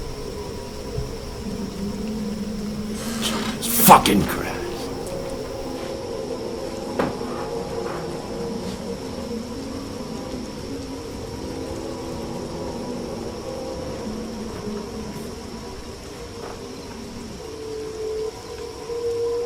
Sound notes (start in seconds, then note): 6.4 eerie wind noise